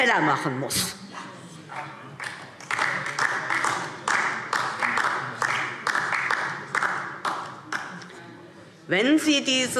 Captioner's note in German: Beifall DIE LINKE